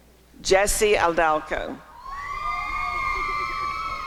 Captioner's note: applause and cheering